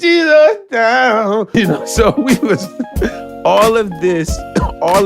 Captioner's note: laughs